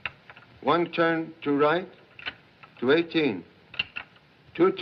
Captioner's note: dial Clicking